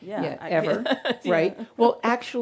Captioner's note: laughing